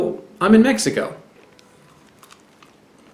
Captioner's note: bites into fruit, sounds squishy